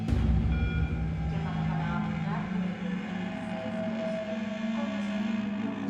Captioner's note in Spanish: voz en el parlante